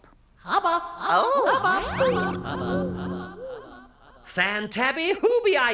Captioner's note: Hubba Hubba echoing; soft zap